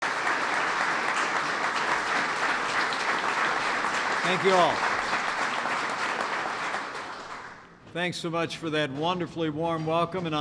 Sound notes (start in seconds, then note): 0.0 applause